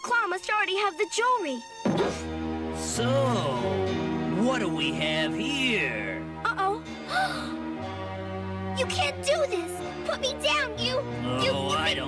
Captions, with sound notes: DR. CLAW MUST ALREADY HAVE THE JEWELRY. - SO WHAT DO WE HAVE HERE? - UH-OH! [GASPS] YOU CAN'T DO THIS! PUT ME DOWN! YOU! YOU BIG BULLY!